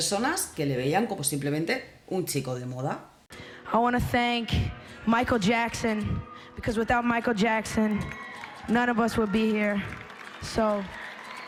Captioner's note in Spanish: Aplausos